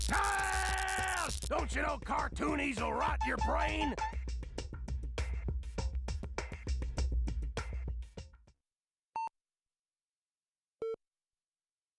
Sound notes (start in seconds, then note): 9.1 beeping